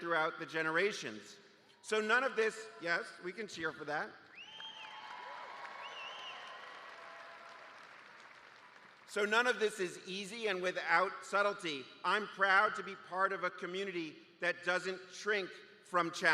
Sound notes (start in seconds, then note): 4.4 cheers; 6.6 cheers and applause